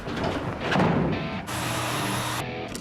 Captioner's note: sawing